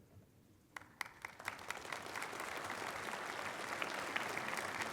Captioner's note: applause